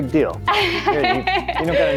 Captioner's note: laugh